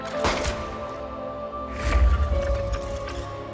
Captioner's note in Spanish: Disparo